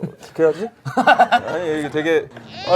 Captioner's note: laughing